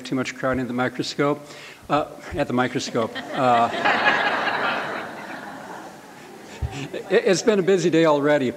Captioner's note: laughter